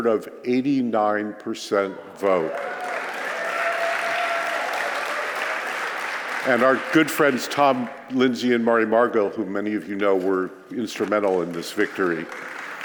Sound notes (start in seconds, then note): 2.2 applause